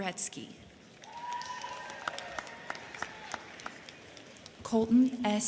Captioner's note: crowd clapping; crowd cheering